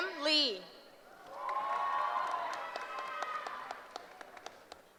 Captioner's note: cheering